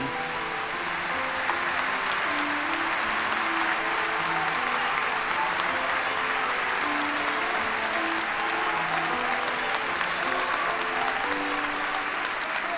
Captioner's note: applause